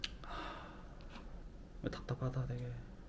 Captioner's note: deep sigh